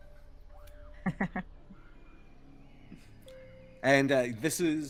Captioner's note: Calla laughs; Cornette laughs; Pegasi laughs